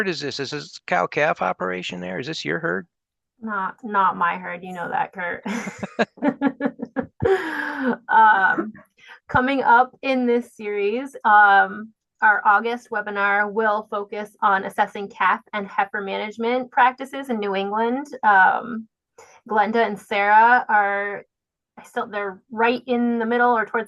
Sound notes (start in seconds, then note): 5.5 laughing